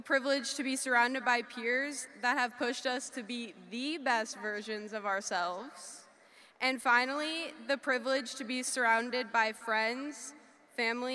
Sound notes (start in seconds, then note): none